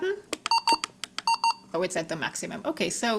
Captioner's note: device beeps